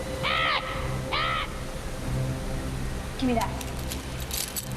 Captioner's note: cawing